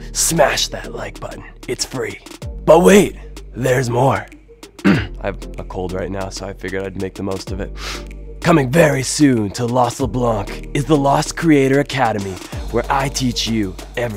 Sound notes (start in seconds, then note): 4.8 clears throat; 7.7 sniffs